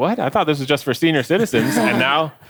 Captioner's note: person chuckles